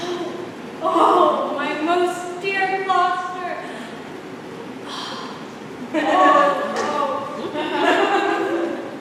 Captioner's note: scattered laughter